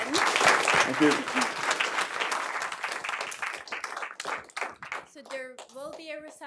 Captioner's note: audience applauding